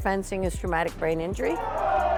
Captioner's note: fencer screams